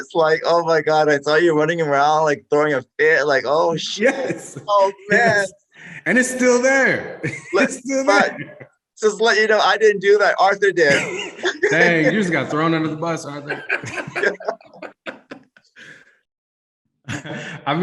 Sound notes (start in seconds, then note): 3.7 laughing; 10.8 panelists laugh